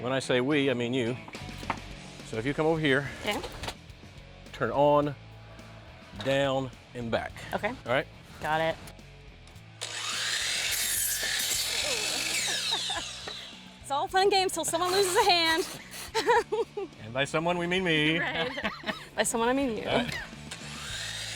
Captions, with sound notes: When I say "We", I mean you. So if you come over here. Yeah. Turn on, down and back. Okay. Got it. All right. (MACHINE WHIRRING) (CHUCKLES) It's all fun and games until someone loses a hand. (LAUGHS) And by "Someone" we mean me. (LAUGHS)Right. By someone I mean you.